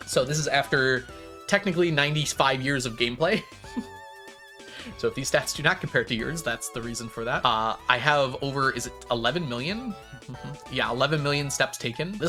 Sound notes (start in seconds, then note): 3.3 chuckles